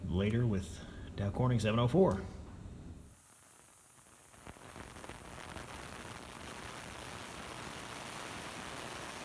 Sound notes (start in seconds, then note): 3.0 hissing static noise